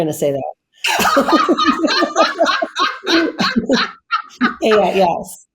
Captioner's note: laughs